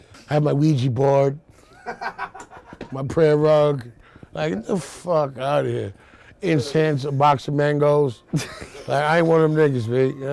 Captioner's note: laughter